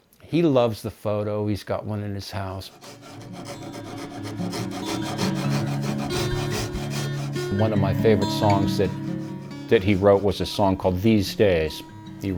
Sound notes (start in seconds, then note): 3.3 shaving wood